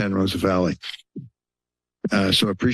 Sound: pause

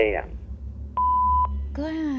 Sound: beep

